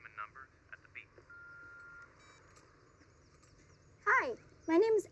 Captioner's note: voicemail beeps